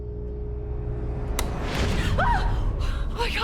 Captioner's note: Sharon screams